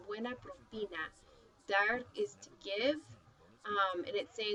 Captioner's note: speaking spanish